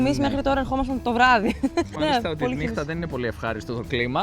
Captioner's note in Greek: γέλια